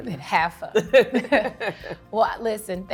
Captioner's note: both laughing